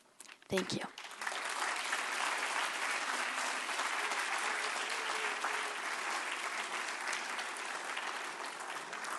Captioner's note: applause